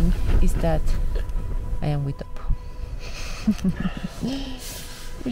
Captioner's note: laughs